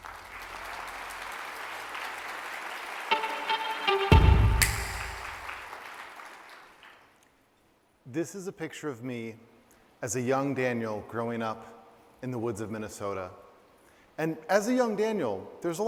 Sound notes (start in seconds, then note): 0.0 applause